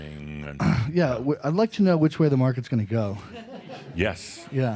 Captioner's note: some chuckles